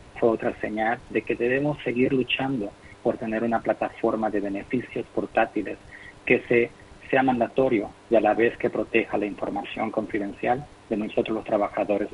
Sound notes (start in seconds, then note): 0.0 speaking in foreign language